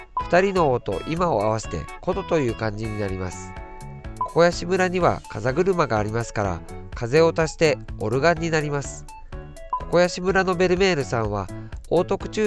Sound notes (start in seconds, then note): 7.6 wind; 9.3 organ